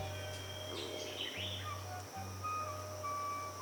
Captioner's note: birds tweeting